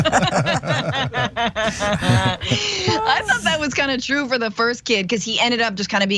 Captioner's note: laugh